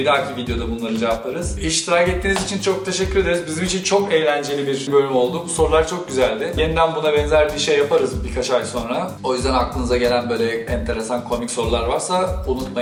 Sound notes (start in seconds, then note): none